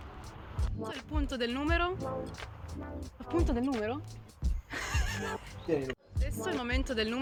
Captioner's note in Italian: risata